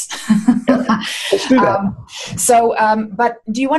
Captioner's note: laughs